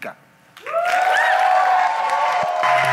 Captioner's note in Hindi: वाहवाही